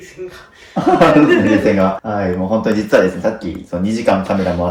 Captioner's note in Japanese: 笑い